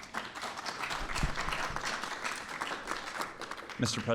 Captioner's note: applause